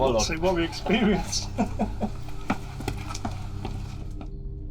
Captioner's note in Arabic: يضحك